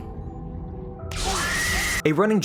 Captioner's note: matt watson scream